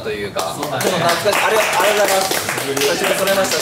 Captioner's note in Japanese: 拍手